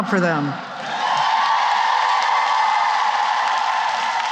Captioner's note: cheering and applause